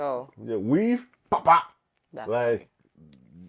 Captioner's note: pop pop